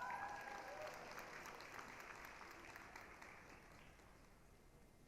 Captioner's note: applause, cheering